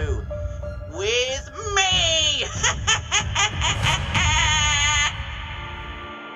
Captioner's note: cackles